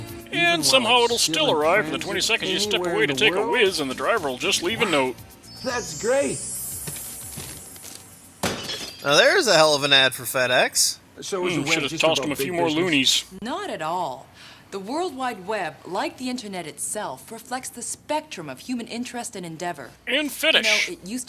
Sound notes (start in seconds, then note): 8.6 crashing noise